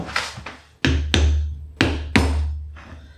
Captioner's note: thump thump bang wallop